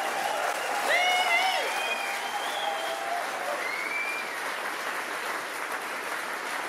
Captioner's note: audience cheers and applauds